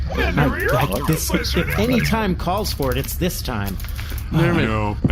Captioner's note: skittering angrily